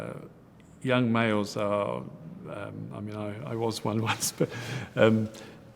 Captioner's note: giggles